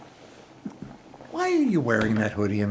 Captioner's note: the sound of boiling water